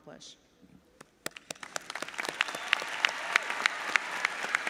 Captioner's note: audience applauds